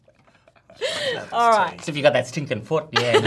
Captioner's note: laughs; laughs